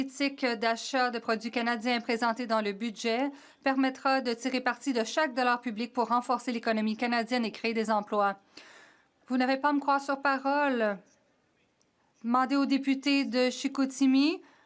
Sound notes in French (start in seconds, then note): 1.1 voix de l'interprète